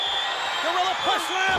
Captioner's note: crowd yelling; whistle blowing